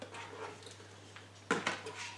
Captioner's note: stirring